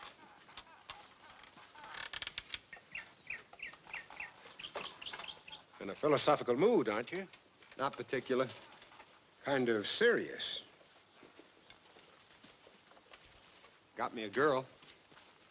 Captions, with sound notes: (gate creaking) (birds chirping) - In a philosophical mood, aren't you? - Not particular. - Kind of serious. - Got me a girl.